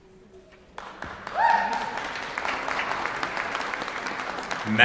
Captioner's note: applause